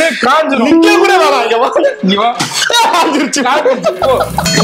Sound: spit

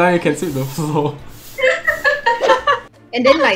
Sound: laughs

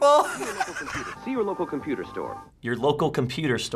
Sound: laughing; voice-over

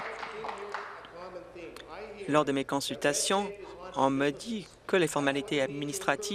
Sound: applause

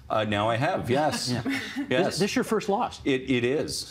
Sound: laughter

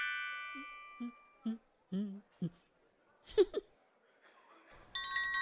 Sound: humming, giggles; ringing

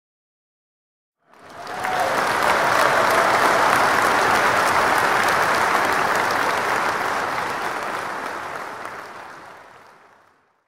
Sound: sound of clapping

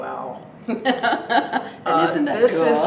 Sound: laughs

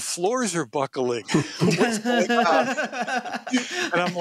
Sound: laughter

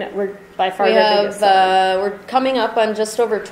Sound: voiceover

